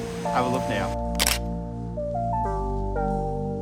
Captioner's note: shutter clicks; gentle music